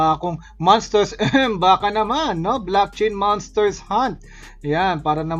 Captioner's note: cough